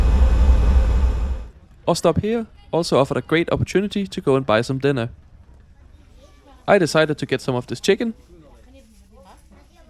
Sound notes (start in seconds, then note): 1.7 engine Noise